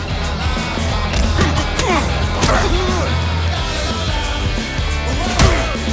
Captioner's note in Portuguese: gemidos